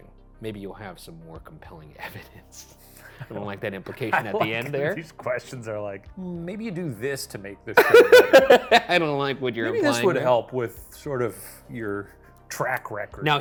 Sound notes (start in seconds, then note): 4.0 chuckling; 7.8 laughing